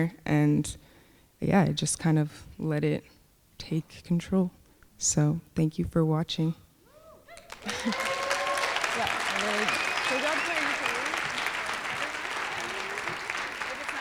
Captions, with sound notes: And yeah, it just kind of let it take control. So thank you for watching. (applause)